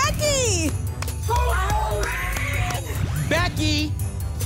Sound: cheering

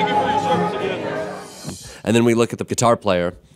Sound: whooshing

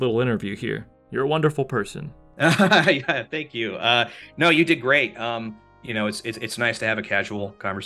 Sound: laughs

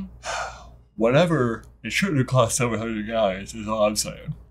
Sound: yawning

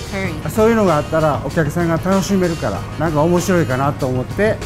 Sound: foreign language

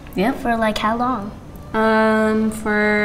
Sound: none

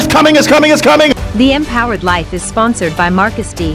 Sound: voiceover

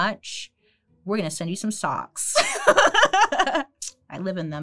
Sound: laughs

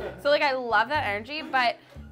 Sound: laughs

